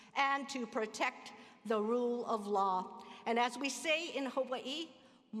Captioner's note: speaking hawaiian